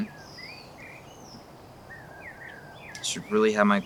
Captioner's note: birds chirping